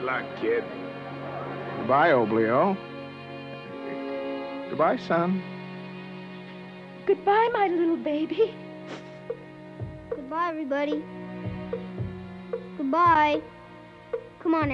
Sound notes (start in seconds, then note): 3.9 crying; 8.8 sniffles